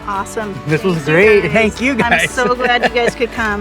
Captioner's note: laughs